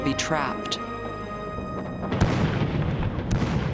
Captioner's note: gunfire